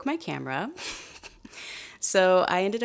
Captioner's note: giggles